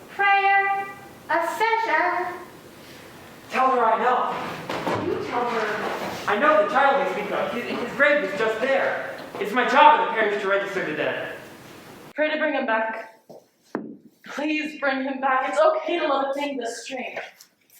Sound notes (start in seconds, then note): none